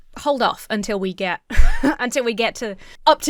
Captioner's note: wheezes